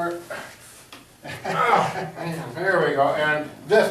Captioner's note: laughing; grunting